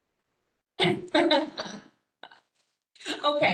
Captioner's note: laughs